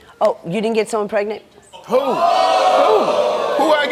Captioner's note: audience reacts loudly, wildly